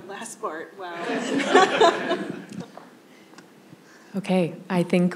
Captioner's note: laughter